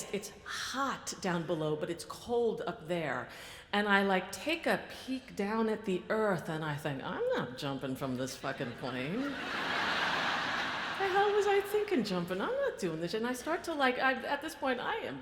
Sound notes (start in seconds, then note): 9.1 audience laughs